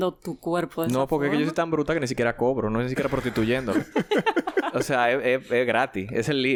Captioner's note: laughs